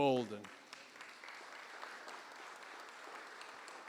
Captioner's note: applause